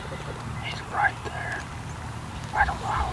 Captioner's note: whispering